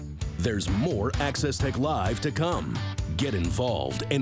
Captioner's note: voiceover